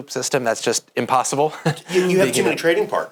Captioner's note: laughs